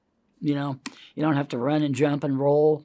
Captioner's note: hands tapping